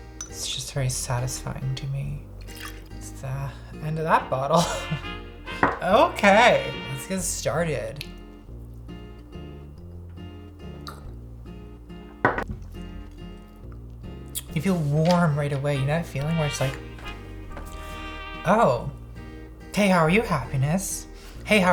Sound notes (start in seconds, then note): 8.3 slurping